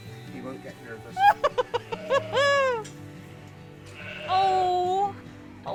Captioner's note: laughing